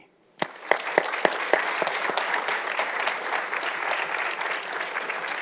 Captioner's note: audience applauding